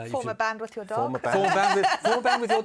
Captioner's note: laughter